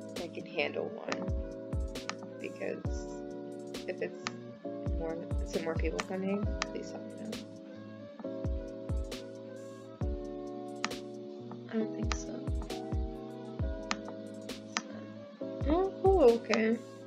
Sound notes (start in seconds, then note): none